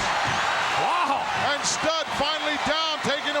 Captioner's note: audience cheering